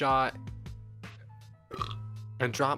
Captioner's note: burps